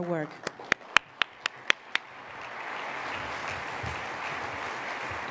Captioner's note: applause